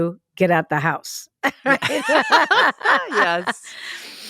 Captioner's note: both laugh